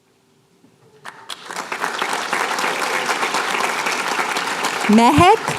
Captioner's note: applause